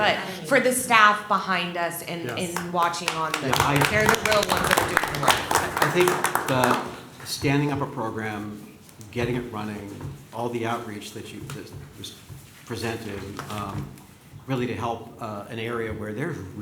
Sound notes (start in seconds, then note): 5.3 applause